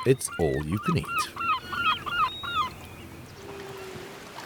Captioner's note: bird caws